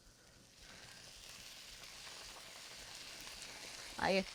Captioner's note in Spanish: chisporroteo